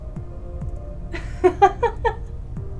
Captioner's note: Jane laughs